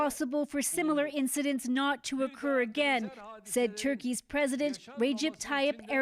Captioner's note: speaking Alternate Language